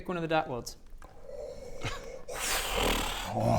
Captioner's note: worryingly enthusiastic noises